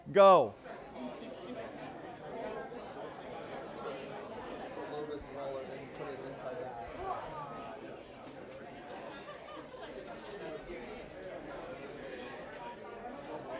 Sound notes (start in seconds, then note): 1.1 chatter